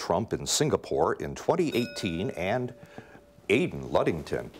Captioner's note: bells rings